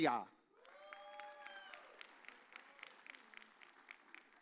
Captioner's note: audience cheers